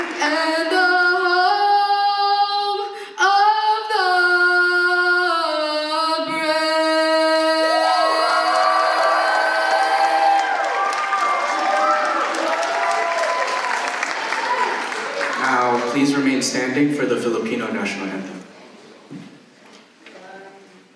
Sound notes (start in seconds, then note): 11.1 applause